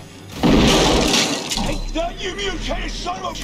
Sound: shotgun blast

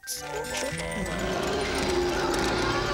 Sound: roaring

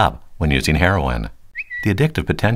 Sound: Twitter sound

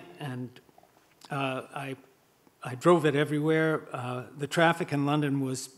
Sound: none

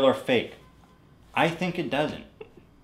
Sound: Hila giggles

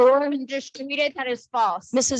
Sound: speaks faintly

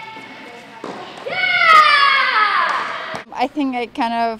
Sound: shouting

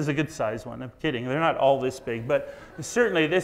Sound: audience laughs

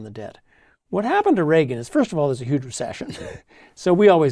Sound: laugh

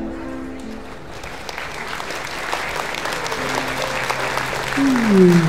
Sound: applause

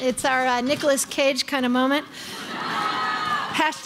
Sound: crowd laughing

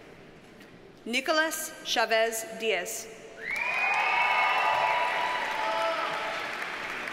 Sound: audience cheers and applauds

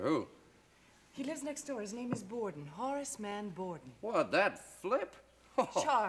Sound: laughs

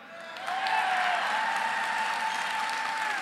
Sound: applause

